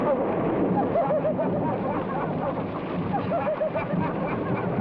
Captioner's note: people laugh